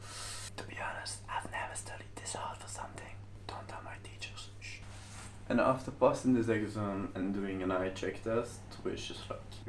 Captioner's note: whisper